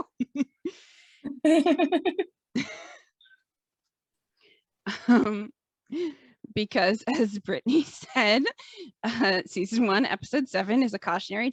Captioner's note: laugh